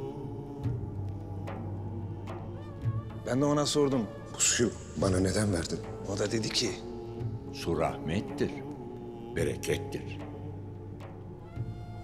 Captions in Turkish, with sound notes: (Ahmet dış ses) Ben de ona sordum: Bu suyu bana neden verdin? (Ahmet dış ses) O da dedi ki. Su rahmettir. Berekettir.